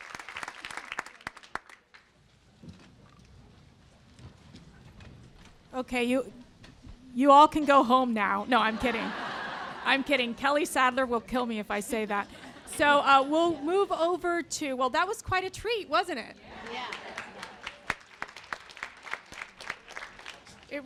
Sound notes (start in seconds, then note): 8.5 laughter; 16.6 applause